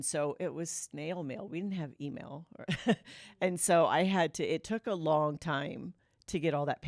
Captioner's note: laughter